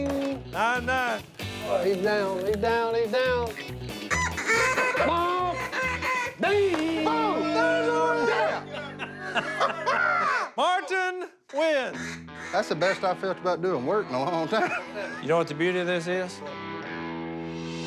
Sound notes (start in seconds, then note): 3.4 duck calls; 8.2 laughter